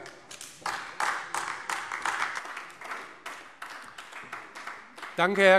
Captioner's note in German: Beifall AfD